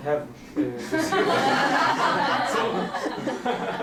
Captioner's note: laughter